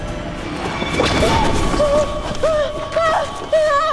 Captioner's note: shrieks